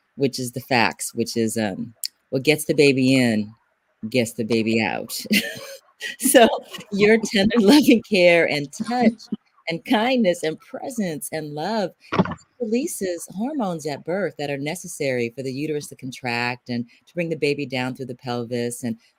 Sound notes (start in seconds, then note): 4.5 laughs